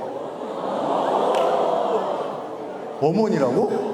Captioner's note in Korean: 술렁